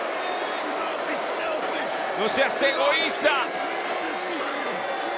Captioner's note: applause